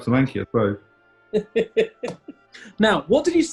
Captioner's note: chuckling